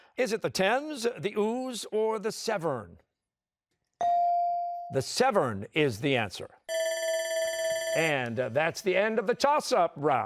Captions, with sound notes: Is it the Thames, the Ouse, or the Severn? The Severn is the answer. (bell ringing) And that's the end of the toss-up round.